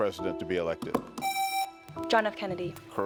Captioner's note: buzzer rings